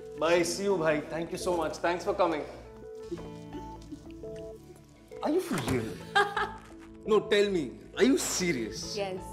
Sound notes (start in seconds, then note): 3.0 giggling; 5.8 laughs